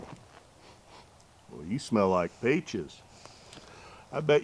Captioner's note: sniffs